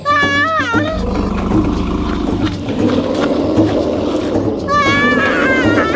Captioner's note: dinosaur growling continues; drumbeat music continues